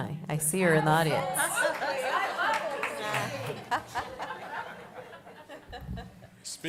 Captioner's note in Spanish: Voces de fondo